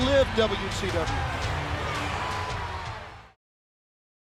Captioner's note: upbeat rock music; crowd cheering